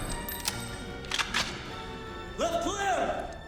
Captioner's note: guns clicking